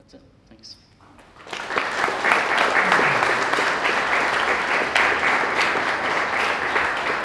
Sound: applause

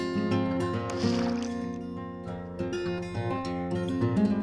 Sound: water gurgling

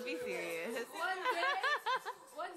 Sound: laughter

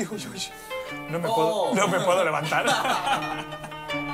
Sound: laugh

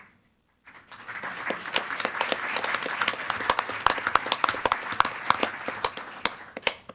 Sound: board members and attendees applaud

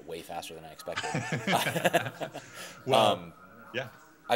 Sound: laughing

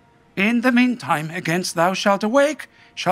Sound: none

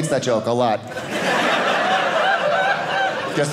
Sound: audience laughing

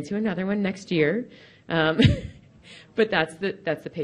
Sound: laughs

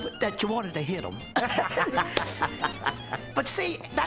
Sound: both laugh

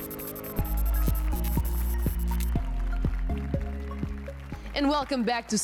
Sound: applause and cheers

